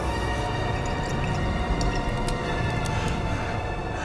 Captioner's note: wine glugging